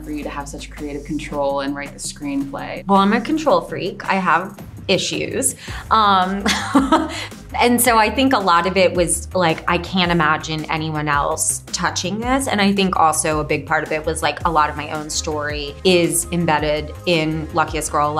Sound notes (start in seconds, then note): 6.4 chuckles